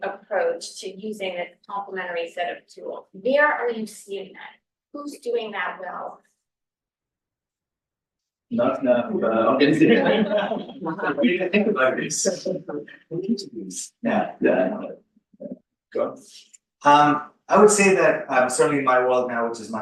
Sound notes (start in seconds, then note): 9.2 laughter